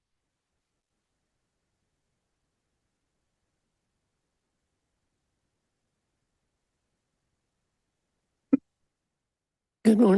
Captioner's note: silence